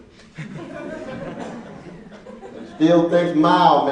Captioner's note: laughing